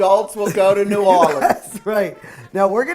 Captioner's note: woman laughing